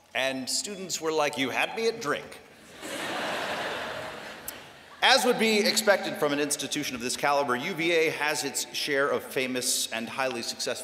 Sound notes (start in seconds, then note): 2.7 laughter